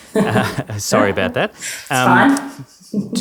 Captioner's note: laughs